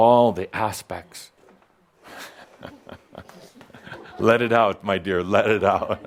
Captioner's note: someone reacts, chuckles